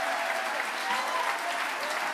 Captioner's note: applause